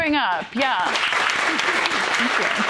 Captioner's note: applause